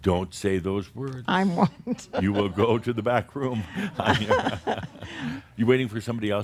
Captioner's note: she chuckles; they chuckle